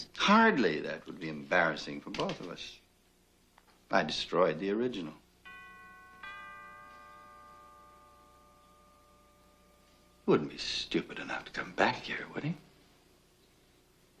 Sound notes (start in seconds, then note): 5.4 doorbell rings